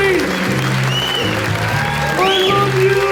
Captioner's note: audience cheering